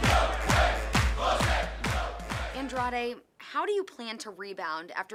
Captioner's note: fans chanting